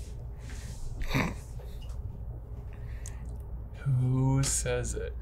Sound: snorts

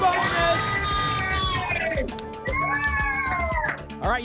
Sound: applause and cheering

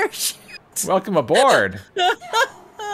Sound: sad laughter

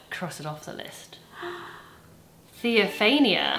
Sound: gasps quietly

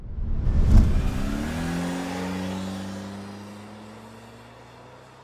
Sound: revving engine

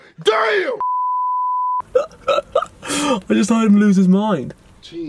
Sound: beep

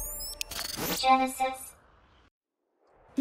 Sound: electricity crackling; robot Voice

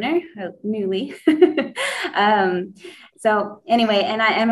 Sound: laughs

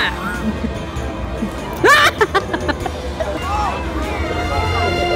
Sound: laughing; ominous music

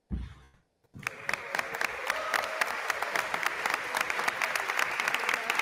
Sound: attendees applauding

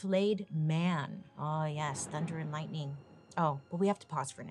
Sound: thunder rumbles

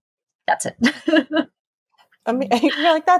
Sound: laughs

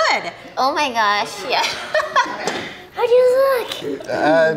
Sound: giggles

